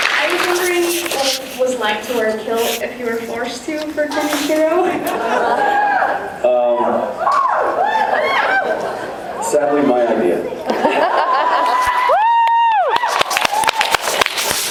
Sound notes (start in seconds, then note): 5.0 laughs, cheers; 6.8 cheers; 10.6 laughs, cheers; 11.1 cheers, applauds